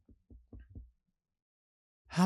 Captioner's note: none